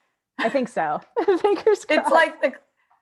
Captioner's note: laughs